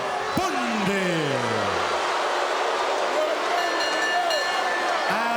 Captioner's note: audience shouting; bell rings